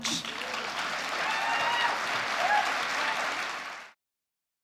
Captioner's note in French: Applaudissements